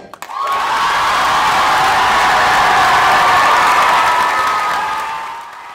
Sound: wild cheers and applause

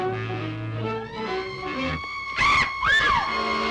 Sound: bat shrieks

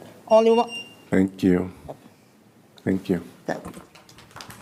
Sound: applause

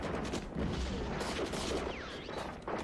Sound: gunfire and bullets ricocheting

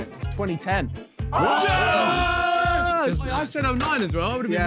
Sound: men cheering

